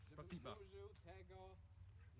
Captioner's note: in russian